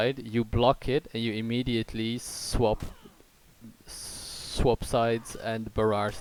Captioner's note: balloon impression